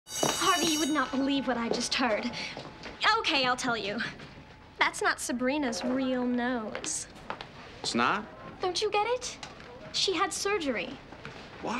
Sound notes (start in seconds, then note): 0.0 school bell ringing